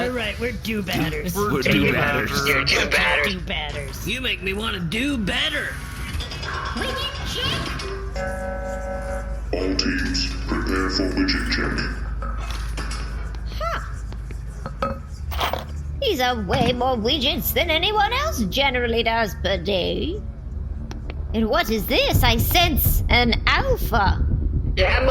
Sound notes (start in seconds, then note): 0.0 prisoners start mumbling; 7.5 over megaphone; 7.9 electronic gong; 15.4 clank